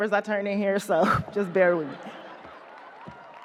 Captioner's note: audience laughs; chuckles